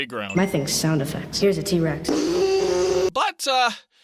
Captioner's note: screeches